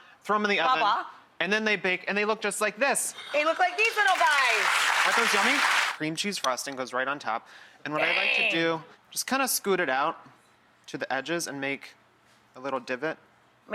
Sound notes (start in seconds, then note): 3.6 audience applause